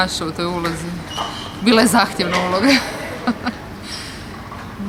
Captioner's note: laughter